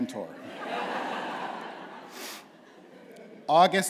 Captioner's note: laughter